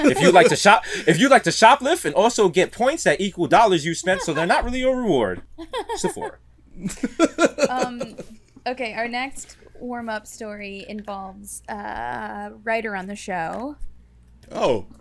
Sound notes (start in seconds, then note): 6.8 laughs